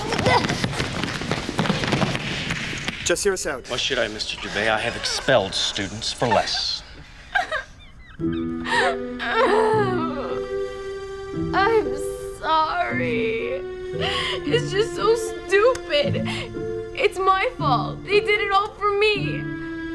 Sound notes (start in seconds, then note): 0.0 footsteps scrambling; 7.4 Adena over dramatically sobs; 8.2 woeful music